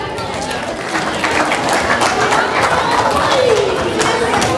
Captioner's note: audience applause